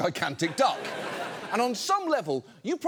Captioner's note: audience laughs